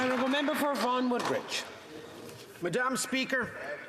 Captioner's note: some Applause